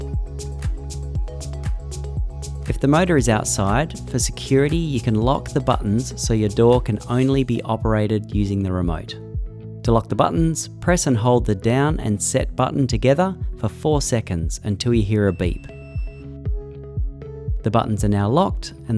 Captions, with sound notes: If the motor is outside, for security, you can lock the buttons so your door can only be operated using the remote. To lock the buttons, press and hold the DOWN and SET button together for four seconds until you hear a beep. (opener beeps) (upbeat music continues) The buttons are now locked